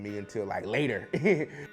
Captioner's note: laughter